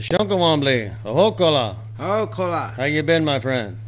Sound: men speaking foreign language

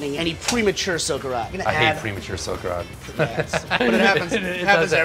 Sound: laughs

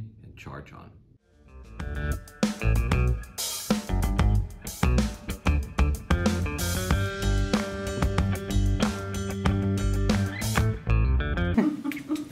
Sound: laughter

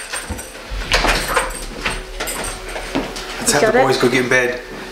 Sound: door shuts

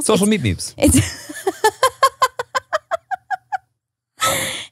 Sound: laughing

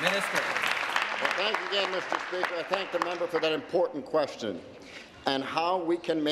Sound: applause

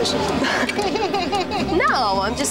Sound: both laugh

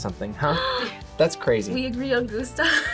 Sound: gasps; laughs

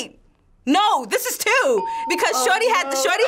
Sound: bell rings

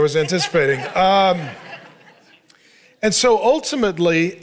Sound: congregation laughing

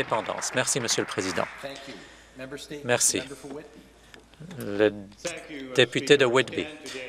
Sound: some Applause

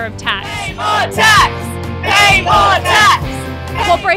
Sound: chanting

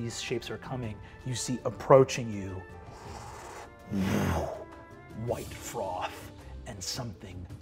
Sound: mimics ocean whipping

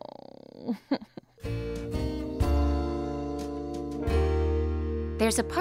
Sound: hiccupping

